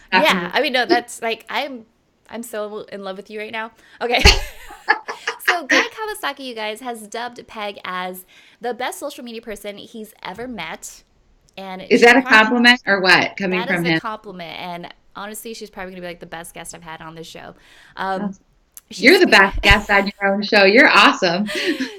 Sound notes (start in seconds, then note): 4.6 laughing